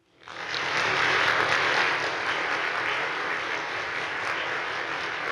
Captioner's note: attendees applauding